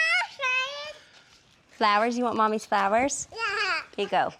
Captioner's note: babbles